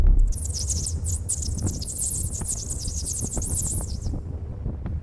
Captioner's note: graphic booms; graphic fizzes